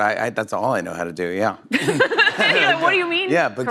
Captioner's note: laughter